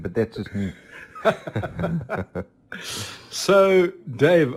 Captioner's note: all laugh